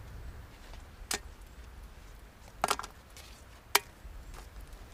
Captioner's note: ingredients splashing